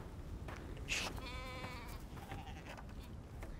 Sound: bleating

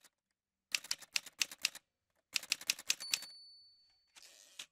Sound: typewriter sounds

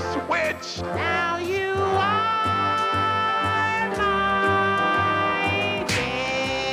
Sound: smack

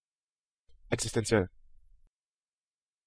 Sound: fast Pronunciation

